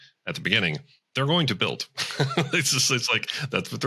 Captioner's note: laughs